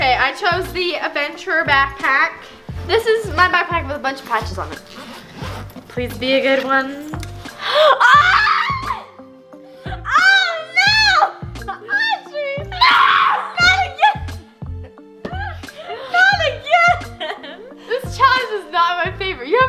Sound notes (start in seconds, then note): 4.2 zipper zips; 7.7 screams; 12.9 yells